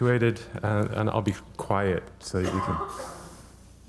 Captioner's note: breathing deeply